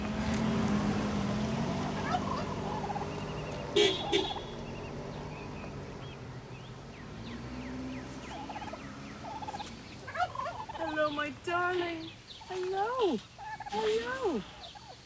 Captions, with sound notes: [car engine thrumming] [honking] Hello, my darling. Hello, hello.